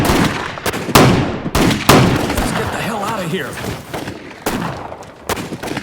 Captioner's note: gunfire